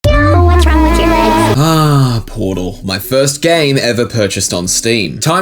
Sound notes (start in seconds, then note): 0.1 zombie moaning